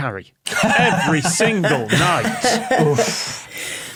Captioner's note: guests laughing